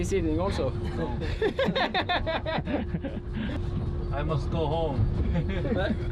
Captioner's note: laughter